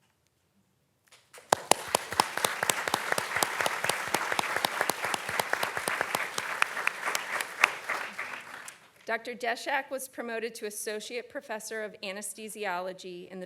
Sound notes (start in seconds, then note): 1.4 audience clapping